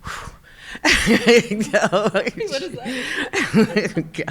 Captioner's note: laughing